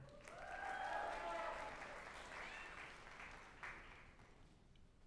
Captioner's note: group applauding and cheering